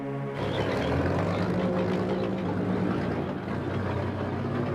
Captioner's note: tank engines rumbling